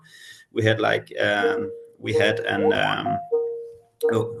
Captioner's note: Skype ringing